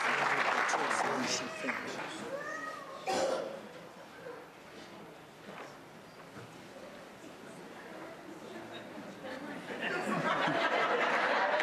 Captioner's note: applause